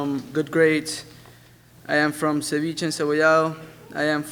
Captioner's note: speaks a foreign language